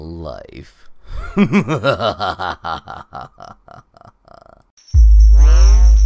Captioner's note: evil laugh